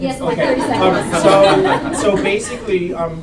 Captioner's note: laughter